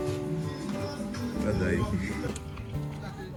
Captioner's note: in igbo